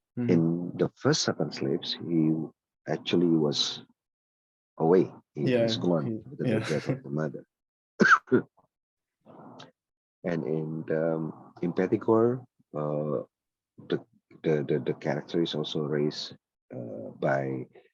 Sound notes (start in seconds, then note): 6.4 laughs